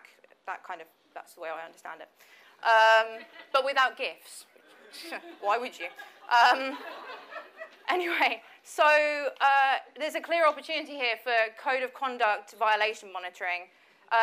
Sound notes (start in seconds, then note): 3.0 audience laughs